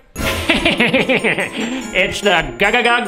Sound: laugh

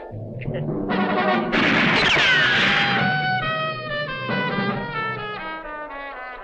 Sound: dramatic instrumental music; guns firing

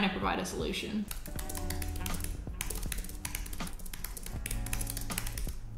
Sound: keyboard clicking

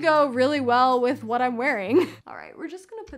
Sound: chuckles

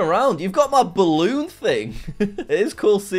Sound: laughs

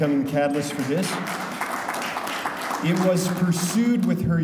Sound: audience applauding

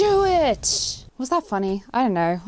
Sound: explosions

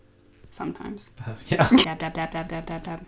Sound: laughs

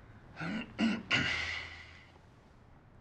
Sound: clearing his throat

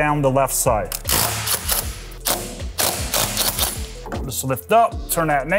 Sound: driver whirring

